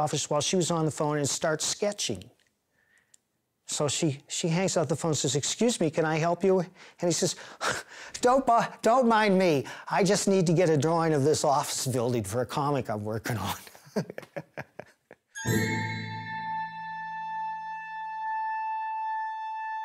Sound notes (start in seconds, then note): 13.6 chuckles; 15.3 playful music